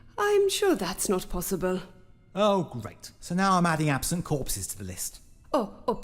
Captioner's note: none